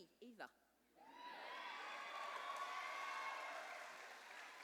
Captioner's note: cheers and applause